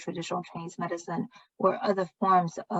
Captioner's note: speaking chinese